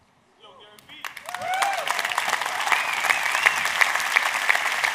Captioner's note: audience cheers